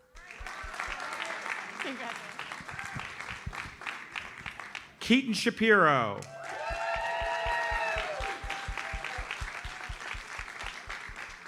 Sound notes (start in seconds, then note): 0.0 audience applauds; 6.1 audience cheers and applauds